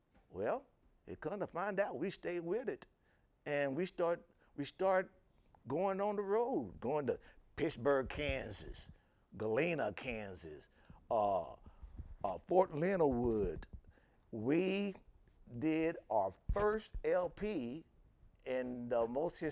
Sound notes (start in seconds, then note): none